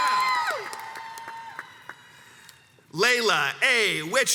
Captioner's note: crowds cheers and applauds